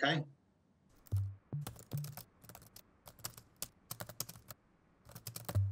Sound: keyboard keys tapping

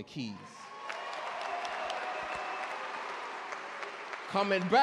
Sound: audience cheer and clap

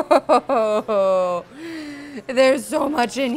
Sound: laughs

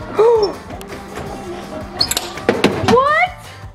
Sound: gasping

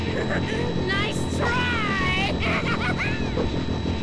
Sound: laughs maniacally

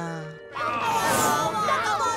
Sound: chattering

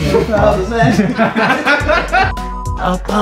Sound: staff laughing; beep

